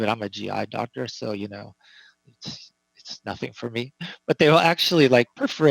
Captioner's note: laughing